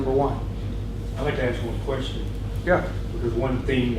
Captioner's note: voiceover